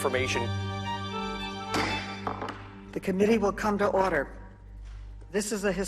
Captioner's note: gavel bangs